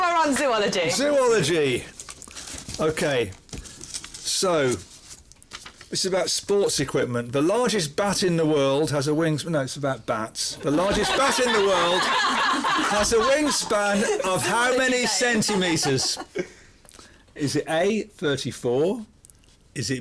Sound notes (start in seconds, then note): 10.6 laughter